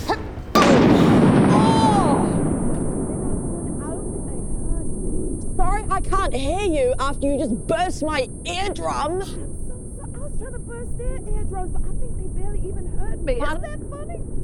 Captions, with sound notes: *BOOM* Oww! Sorry, I can't hear you after you just burst my eardrums! I'm so sorry I was trying to burst their eardrums, but I think they barely even heard me Isn't that funny? - Pardon?